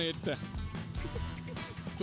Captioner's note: cameraman laughs